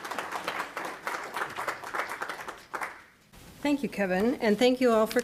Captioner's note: applause